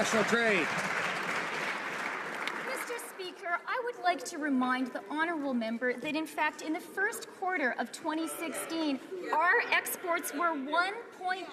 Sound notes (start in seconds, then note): 0.0 some Applause